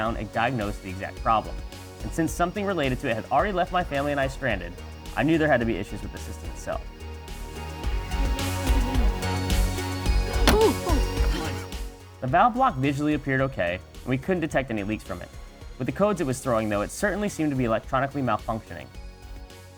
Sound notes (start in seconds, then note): 7.3 upbeat synth music continues; 10.4 metal hitting metal